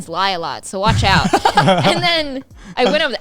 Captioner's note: laughing